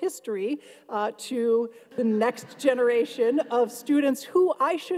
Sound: audience laughs

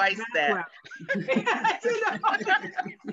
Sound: laughing

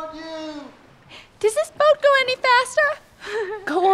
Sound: nervously laughs

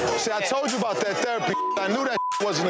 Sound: beep

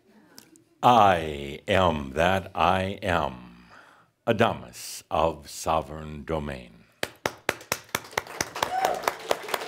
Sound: audience applause

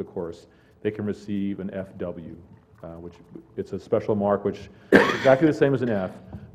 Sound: cough

